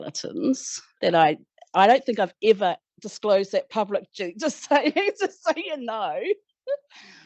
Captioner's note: laughter